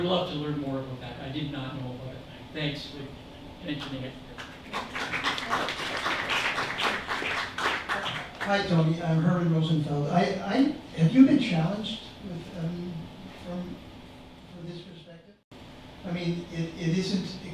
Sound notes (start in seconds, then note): 4.3 applause